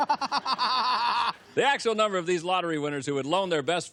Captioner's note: laughter